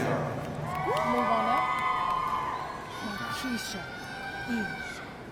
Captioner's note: audience cheering